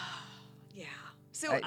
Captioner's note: sighs